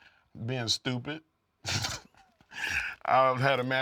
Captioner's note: laugh